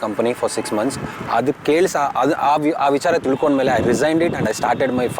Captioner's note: speaks in Kannada – not transcribed